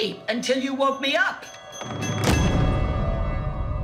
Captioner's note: slams door